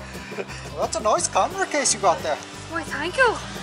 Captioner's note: in an Irish accent